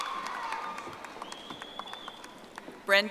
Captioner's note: audience applauding